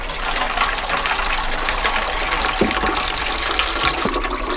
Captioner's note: water pouring